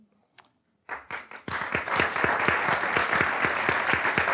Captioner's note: audience applauds